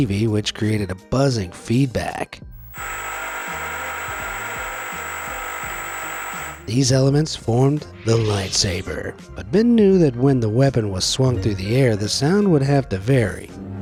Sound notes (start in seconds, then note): 2.5 TV buzzes